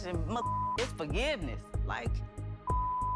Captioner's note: beep